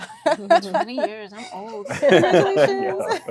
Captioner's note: all laughing